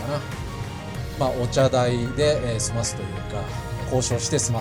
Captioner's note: laughs